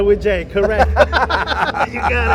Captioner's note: laughter